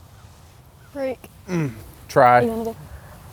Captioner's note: grunts